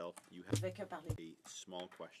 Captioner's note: speaking French